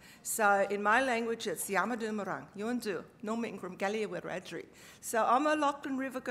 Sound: speaking aboriginal language

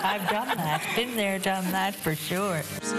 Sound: laughter

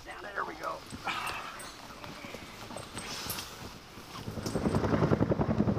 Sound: grunts of effort; whirring helicopter blades

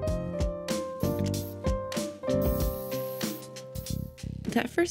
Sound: spray can hissing

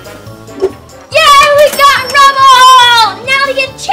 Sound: bell chimes; bell rings

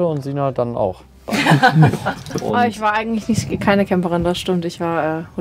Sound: laughs

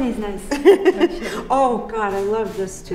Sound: laughs

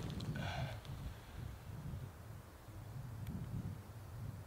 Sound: soft grunt

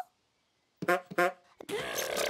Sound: honking

